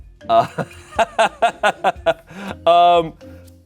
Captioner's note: Shayne laughs